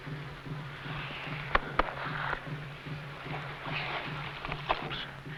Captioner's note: hand patting